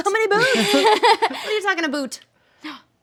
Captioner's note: laughing